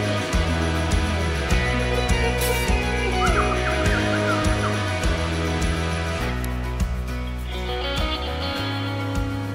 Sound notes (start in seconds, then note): 2.3 kissing sound; 2.8 whistles